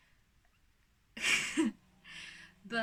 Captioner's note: surprised laugh